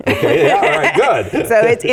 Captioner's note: laugh